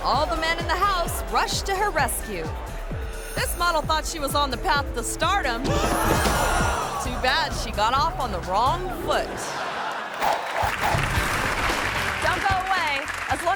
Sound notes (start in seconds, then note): 5.7 model gasps; 5.7 audience gasps; 9.4 audience laughing; 10.5 graphic flutters; 10.6 hands clapping